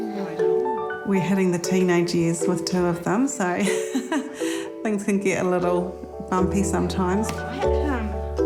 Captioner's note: laughs